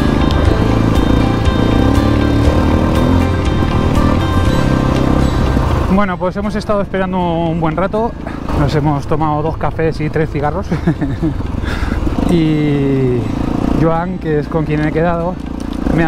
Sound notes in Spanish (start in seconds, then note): 10.6 risas